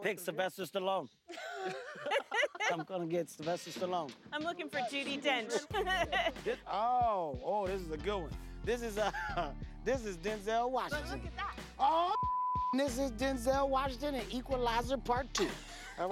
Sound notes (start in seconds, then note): 1.3 laughter; 5.4 laughs